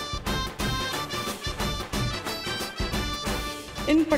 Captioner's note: crackers bursting